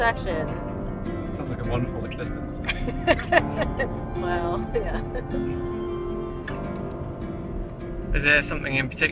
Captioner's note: she laughs